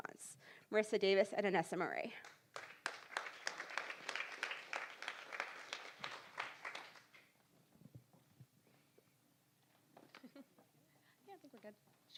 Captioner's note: applause